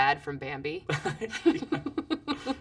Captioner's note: laugh